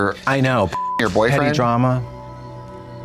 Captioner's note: beep